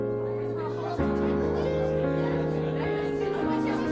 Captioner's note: lively chatter